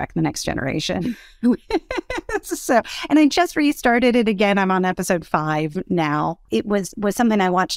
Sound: laugh

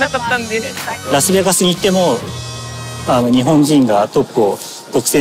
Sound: speaking Japanese

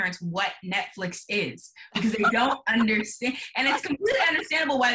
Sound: laughing

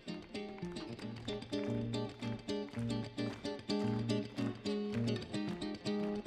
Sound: crowd starts clapping rhythmically

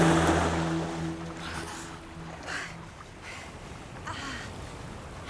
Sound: gasps; taking deep breaths

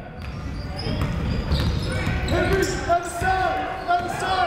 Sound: shouting

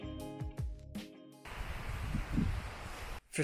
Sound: soft music; sound of wind

